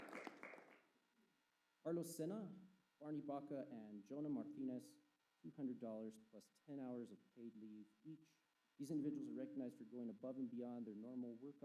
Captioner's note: applause